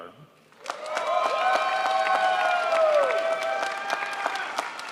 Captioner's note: crowd applauds